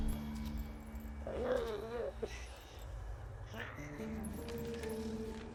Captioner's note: Giree groans